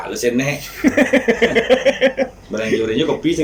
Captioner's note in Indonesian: Ketawa